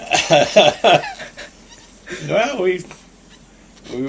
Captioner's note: laughter